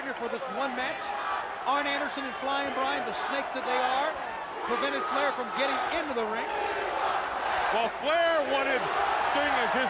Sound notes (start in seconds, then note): 7.2 crowd chatter